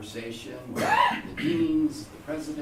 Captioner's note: coughing